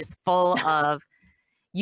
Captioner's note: laughs